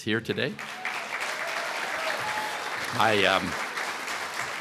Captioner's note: applause